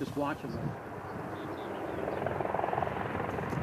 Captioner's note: approaching helicopter